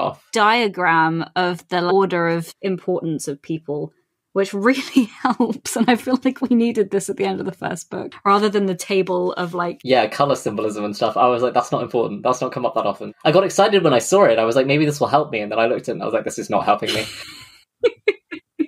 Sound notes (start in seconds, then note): 3.8 laughing